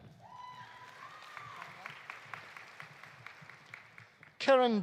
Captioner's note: audience cheering; audience applauding